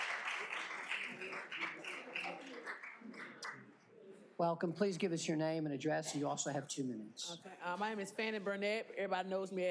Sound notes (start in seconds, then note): 2.3 applause